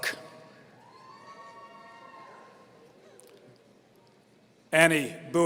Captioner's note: audience cheering